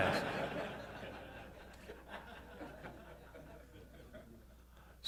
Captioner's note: laughter